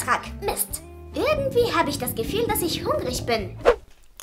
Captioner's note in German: Magen knurrt